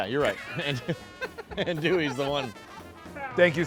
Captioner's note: laughter